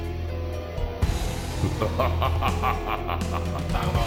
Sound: shao kahn: laughs

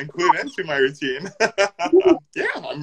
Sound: laughing

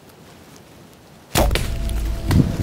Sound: deer call grunts; arrow fires; leaves rustling

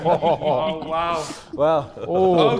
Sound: Sidemen laughing

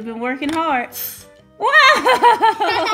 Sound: air blowing; laughs

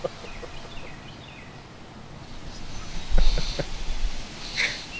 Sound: laughs

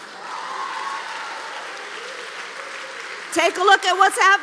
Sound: applause

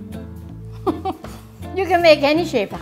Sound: laughs

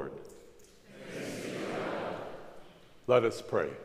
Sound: crowd

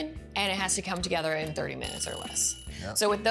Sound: timer buzzing

